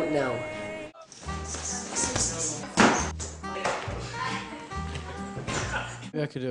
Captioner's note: laughing; noises of whacking each other with inflatable toys